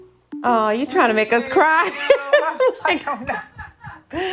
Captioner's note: laughs